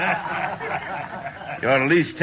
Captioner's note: all laugh